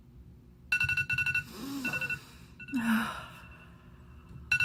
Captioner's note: alarm ringing